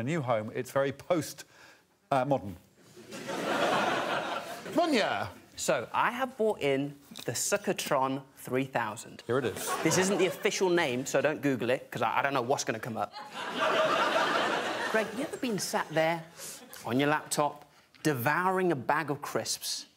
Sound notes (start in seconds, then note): 3.0 crowd laughs; 14.0 laughing